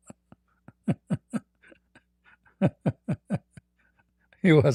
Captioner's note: Ketawa